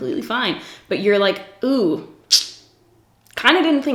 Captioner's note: sucks teeth